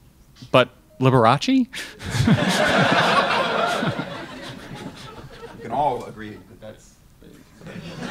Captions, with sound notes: But, Liberace. (crowd laughs) - We can all agree with this.